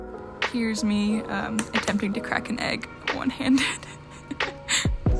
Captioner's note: laugh